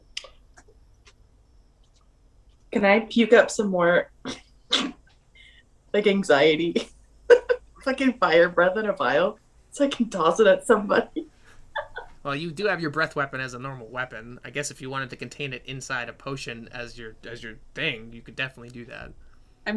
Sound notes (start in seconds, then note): 7.3 laughter; 11.7 chuckles